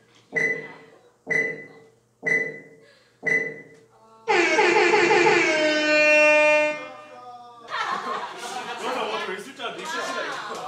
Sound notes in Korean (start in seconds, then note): 7.6 웃음소리